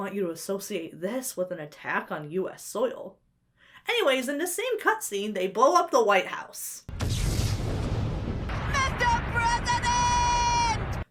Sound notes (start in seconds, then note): 6.9 energy crackles; 7.0 dramatic music